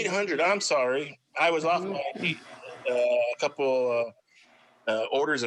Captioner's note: faintly speaking